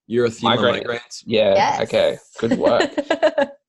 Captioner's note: giggles